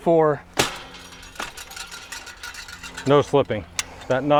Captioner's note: wire shaking